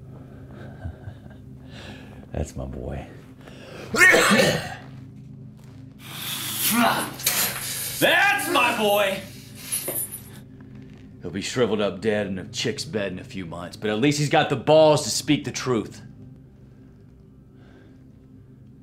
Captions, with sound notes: [laughs] That's my boy [coughs] That's my boy! He'll be shrivelled up dead in a chick's bed in a few months but at least he's got the balls to speak the truth.